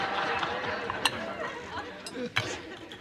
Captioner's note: chuckles